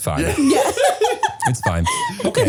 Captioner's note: laughing